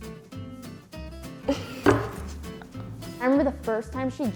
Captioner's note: light music; giggles